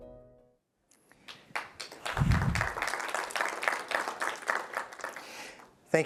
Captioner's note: applause